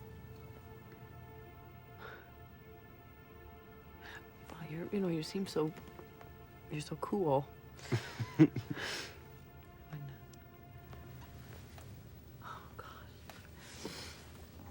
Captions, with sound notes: (dramatic music) - Wow, you know, you seem so... You're so cool. (Peter chuckles) Oh, God.